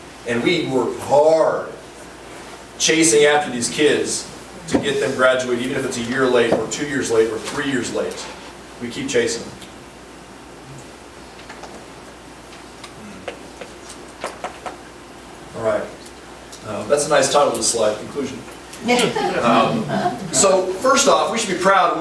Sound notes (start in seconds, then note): 18.8 group laughs